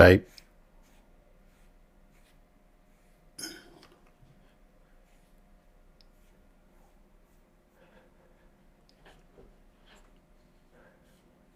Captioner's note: silence